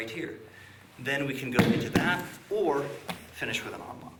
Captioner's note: foot thumping loudly